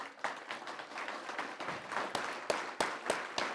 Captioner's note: applause